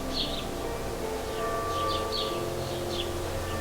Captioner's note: birds chirping; soft music